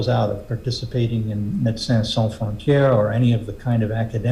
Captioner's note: speaking french